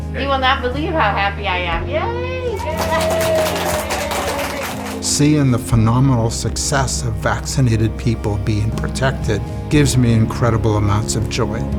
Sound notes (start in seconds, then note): 2.5 applause